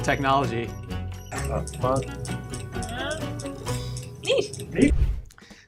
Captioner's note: metal clanging